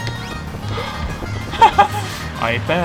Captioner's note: laughter